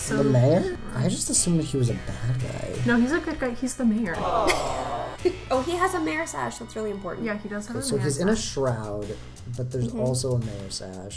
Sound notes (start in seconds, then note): 4.1 crowd aww-ing